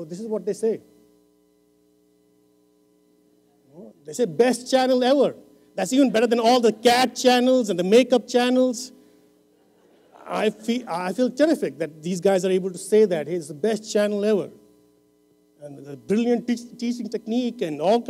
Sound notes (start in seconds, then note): 9.6 laughter